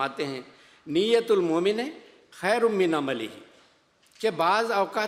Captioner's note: Arabic